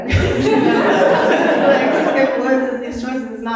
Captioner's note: audience laughing